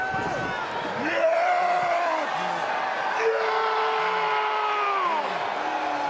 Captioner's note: wrestlers grunting and yelling